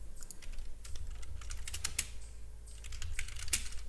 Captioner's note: keys typing